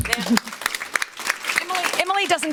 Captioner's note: all clap